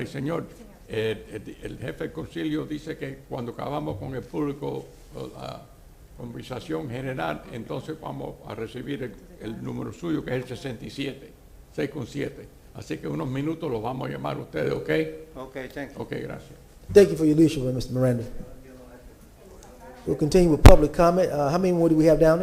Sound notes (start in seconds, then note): 8.3 speaking spanish